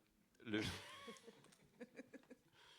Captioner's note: laughs